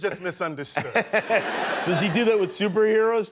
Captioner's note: laughter